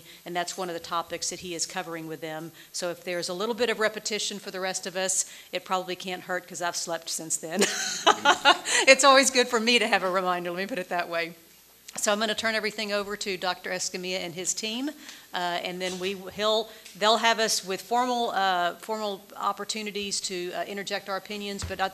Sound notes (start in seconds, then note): 7.6 laughs